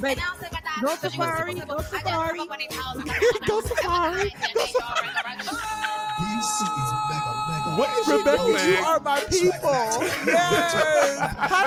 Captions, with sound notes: Not safari, not safari. (laughing) What is she doing? (laughing)